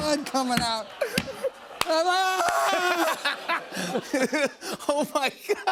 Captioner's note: screaming